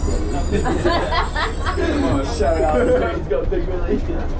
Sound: woman laughs

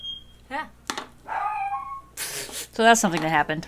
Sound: dog howling

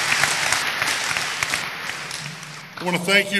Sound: applause

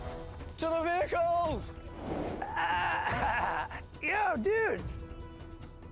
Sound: groans

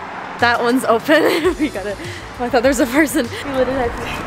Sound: laughing

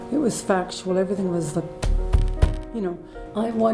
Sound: pounding the table

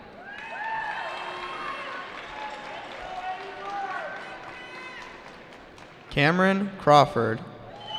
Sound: cheering

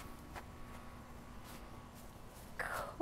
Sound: grass rustles

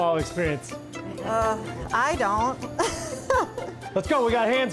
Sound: laughing

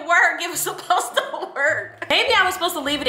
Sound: laughs

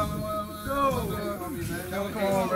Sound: laugh

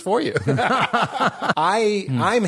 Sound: laughter

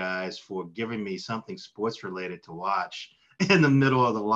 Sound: laughs

